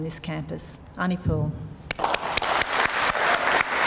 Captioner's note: applause